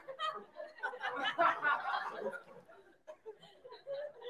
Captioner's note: people laughing